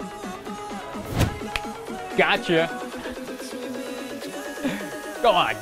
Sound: snaps

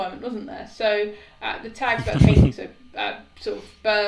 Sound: laughing

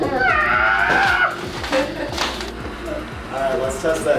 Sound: squeals

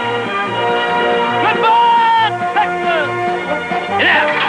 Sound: shouting

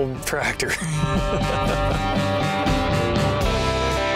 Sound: laughs

